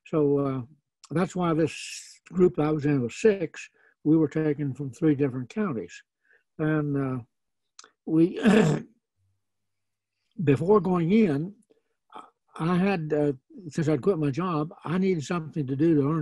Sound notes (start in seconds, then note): 8.3 clears throat